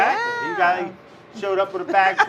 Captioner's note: laughs